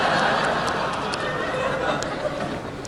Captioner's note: laughing